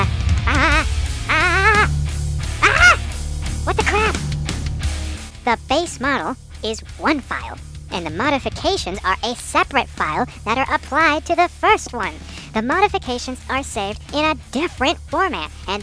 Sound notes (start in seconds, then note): 2.6 aaaaaagghhhhhhhhh!!!!